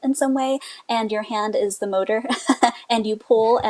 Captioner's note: laughs